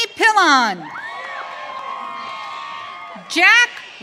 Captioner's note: audience cheering